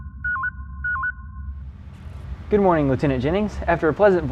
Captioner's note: communication beep